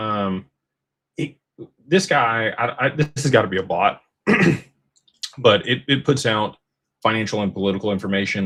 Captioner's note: clears throat